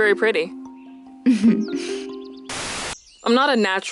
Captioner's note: Anastasia chuckles softly